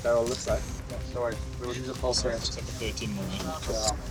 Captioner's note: indistinct conversation